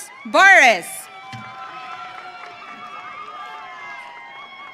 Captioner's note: audience cheering